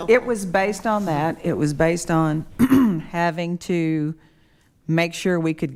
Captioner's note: clears throat